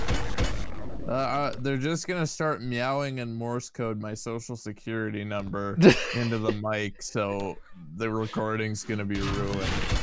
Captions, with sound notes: - Uh, they're just gonna start meowing in morse code my social security number into the mic so... (laughter) The recording's gonna be ruined.